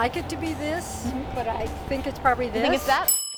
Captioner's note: ding